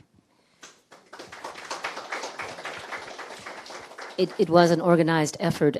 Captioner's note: audience clapping